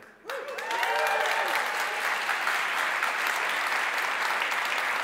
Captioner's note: audience cheering and clapping